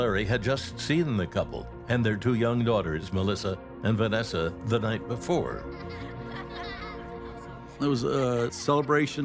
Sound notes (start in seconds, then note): 5.4 children's laughter